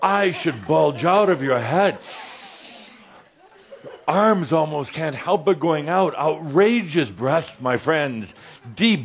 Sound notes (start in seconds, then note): 0.0 Adamus takes a deep breath and makes a funny face; 2.7 some giggles